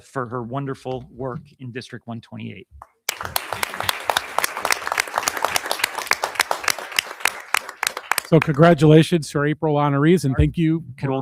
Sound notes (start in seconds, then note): 3.0 audience applauding